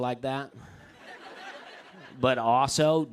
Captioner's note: laughter